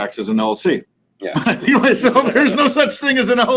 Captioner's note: laughing